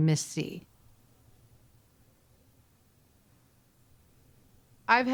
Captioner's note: silence